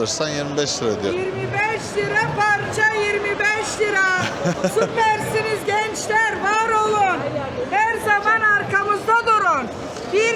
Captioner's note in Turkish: kahkaha